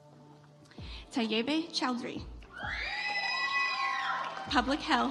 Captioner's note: audience applauds